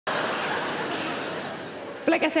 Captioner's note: laughing